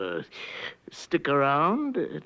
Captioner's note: inhales